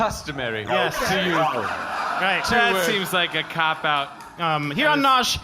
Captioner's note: sarcastic